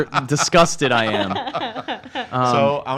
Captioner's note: laughs